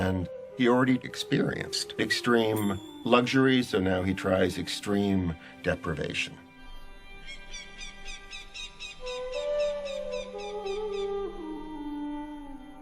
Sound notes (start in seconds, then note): 6.5 bird chirping